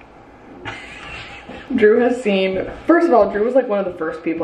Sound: laughs

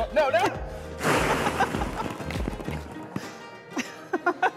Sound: laughter

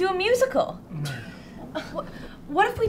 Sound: scoffs

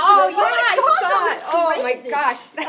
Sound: laughing

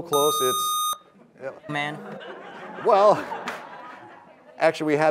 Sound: laughter

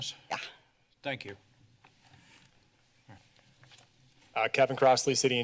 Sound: paper rustling

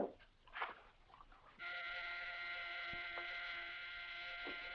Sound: phone buzzing

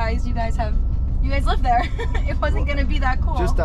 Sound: laughs

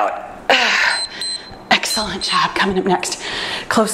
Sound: timer beeps

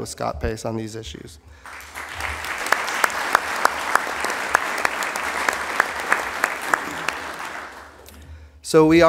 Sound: applause

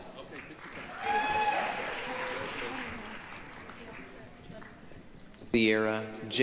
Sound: applause, cheering

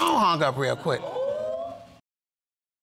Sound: audience exclaiming

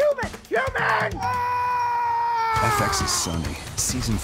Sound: screaming

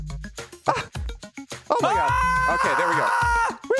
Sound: screaming

